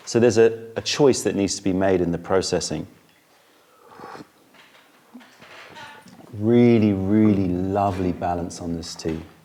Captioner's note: sips tea